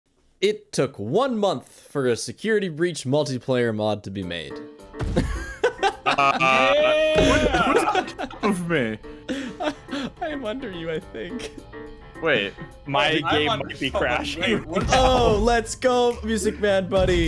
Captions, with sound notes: it took one month for a Security Breach multiplayer mod to be made [a bunch of men laughing] whose with me? I'm under you I think wait my game might be crashing Ohh let's go music man buddy!